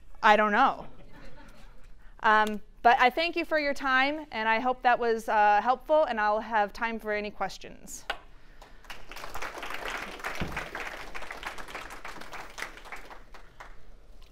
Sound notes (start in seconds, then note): 1.5 audience laughing; 8.6 audience clapping